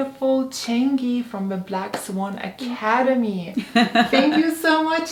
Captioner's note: giggles